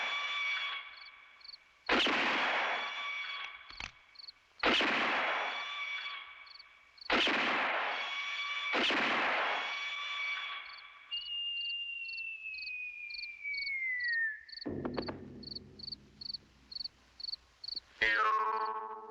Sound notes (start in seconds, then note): 1.8 gunshot